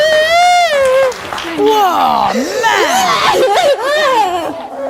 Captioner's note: cries